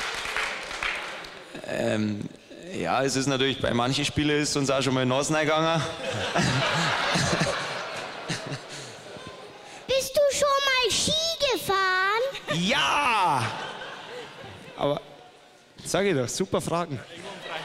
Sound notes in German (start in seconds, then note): 1.5 lacht